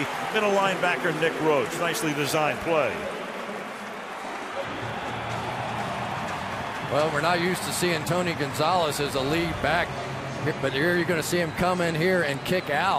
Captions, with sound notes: He's tackled by the middle linebacker Nick Roach. Nicely designed play. [pa announcement] [cheering] Well, we're not used to seeing Tony Gonzalez as the lead back. But here, you're going to see him come in here